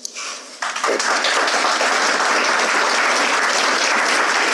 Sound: audience applauds

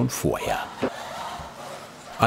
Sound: creaking noises

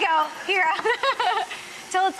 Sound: laughs

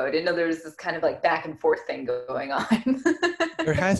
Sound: giggles

